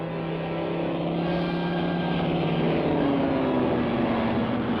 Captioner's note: engine buzzing